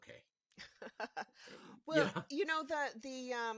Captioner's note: laughing